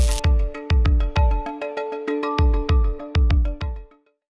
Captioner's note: music and Electricity bursts